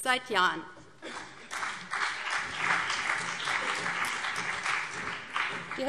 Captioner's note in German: Beifall BÜNDNIS 90/DIE GRÜNEN und CDU